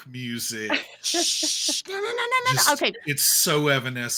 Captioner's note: Neb shushes